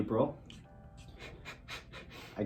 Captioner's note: laughs